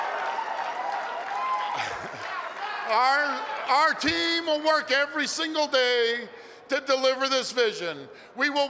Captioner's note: cheers and applause